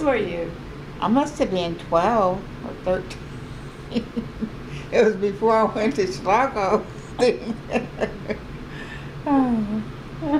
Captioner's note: laughs